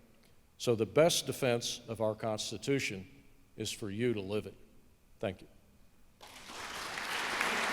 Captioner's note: applause